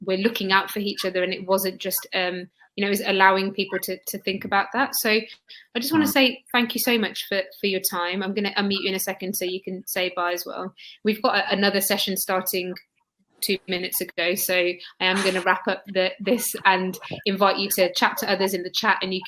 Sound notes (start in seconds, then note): 5.1 erm